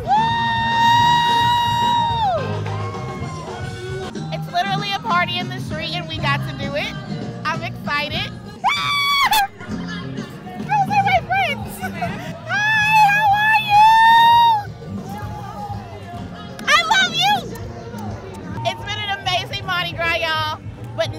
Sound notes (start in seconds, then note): 0.0 cheering; 0.2 instrumental music; 8.7 cheering